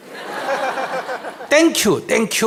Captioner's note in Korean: 청중 웃음